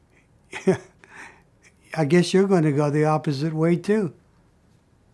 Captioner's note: snickers